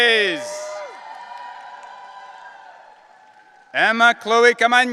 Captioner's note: audience cheering